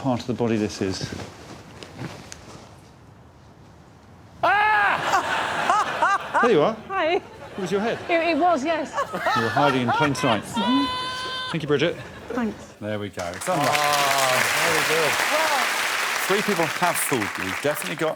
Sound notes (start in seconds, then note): 5.0 woman laughing; 6.1 man shouts